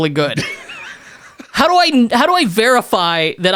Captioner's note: laughs